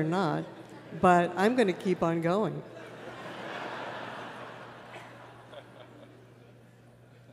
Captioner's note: laughter